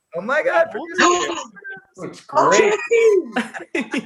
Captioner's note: gasping